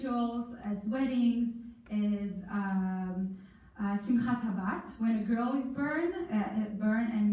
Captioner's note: in foreign language